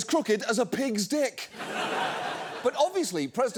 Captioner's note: studio audience laughs